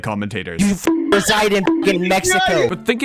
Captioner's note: beep